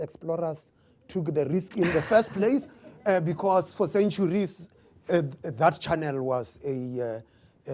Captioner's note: laughter